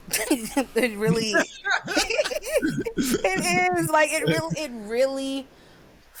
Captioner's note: laughing